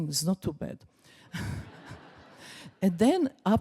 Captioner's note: laughs